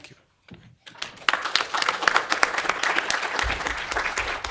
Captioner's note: applause